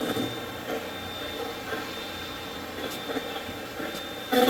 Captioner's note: Steve's Box chatters